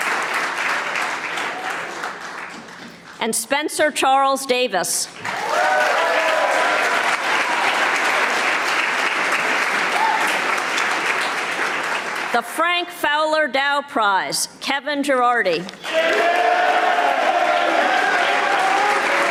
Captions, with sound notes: and Spencer Charles Davis. (audience applauding) The Frank Fowler Dow Prize, Kevin Girardi. (audience applauding)